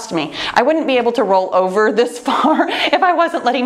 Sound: laughs

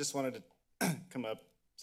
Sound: clears throat

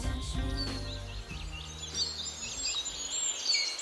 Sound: birds chirping

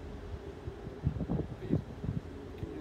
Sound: wind blowing

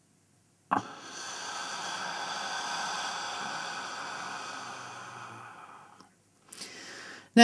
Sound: holding breath; sound of exhalation - "Hhhhh"

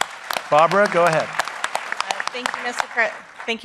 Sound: applause

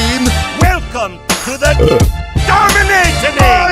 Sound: burp

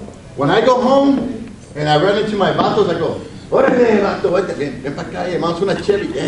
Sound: speaks Spanish

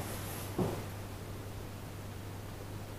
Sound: Drummond whispers to Billy

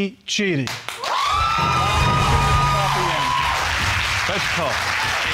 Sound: audience cheering

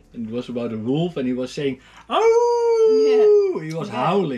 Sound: he howls

